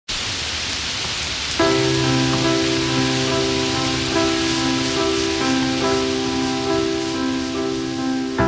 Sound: rain noise

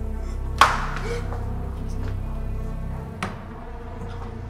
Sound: heavy breathing

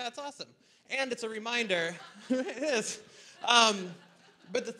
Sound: audience laughter

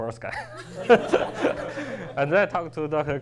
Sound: laughs

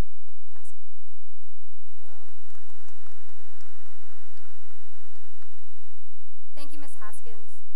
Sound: applause

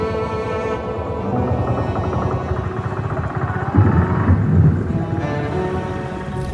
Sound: car sound

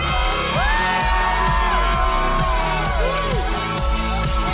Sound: crowd cheering

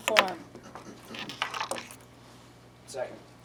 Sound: clattering

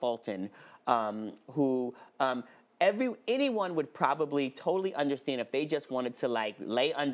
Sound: none

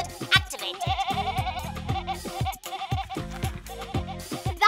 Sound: Moyo bleating to the beat

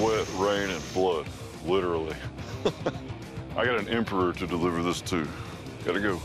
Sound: chuckles

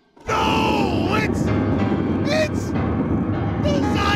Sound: screaming

